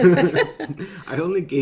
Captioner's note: laughing